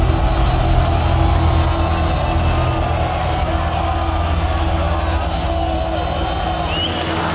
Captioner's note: crowd shouting